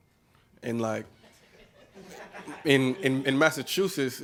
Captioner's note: laughing